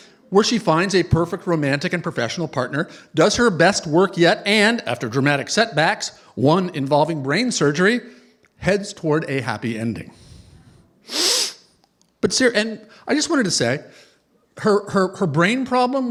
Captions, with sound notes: Where she finds a perfect romantic and professional partner, does her best work yet, and after dramatic setbacks-- one involving brain surgery-- heads toward a happy ending. [sniffs] But seriously. And I just wanted to say, her brain problem, which